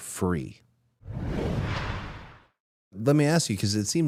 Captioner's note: graphic whooshes